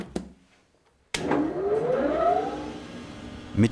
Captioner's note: quiet whine of the machine